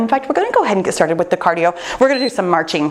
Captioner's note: timer beeps